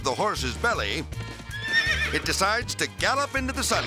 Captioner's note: lively country music; horse neighs